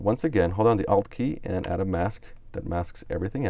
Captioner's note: types on keyboard